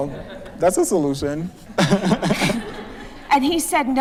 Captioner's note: laughter